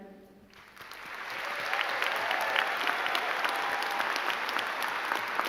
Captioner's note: crowd clapping and cheering